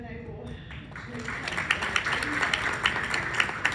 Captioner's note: clapping